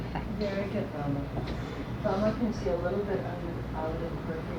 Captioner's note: people Chattering